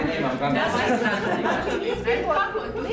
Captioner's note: laughs